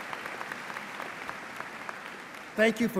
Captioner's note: applause